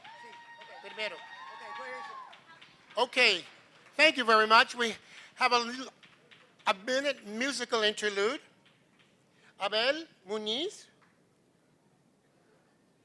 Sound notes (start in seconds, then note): 9.6 non-english speech